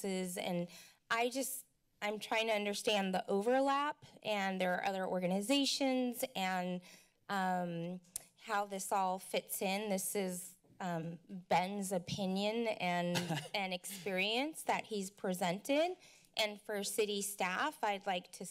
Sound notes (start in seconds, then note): 13.1 laughter